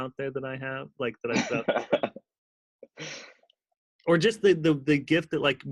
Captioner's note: laughter drowns out dialog